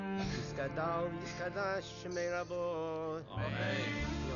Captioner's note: speaking Hebrew